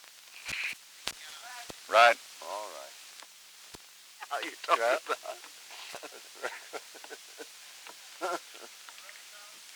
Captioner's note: production chatter; laughter